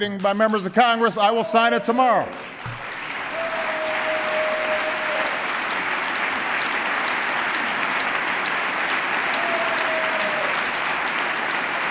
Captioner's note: applause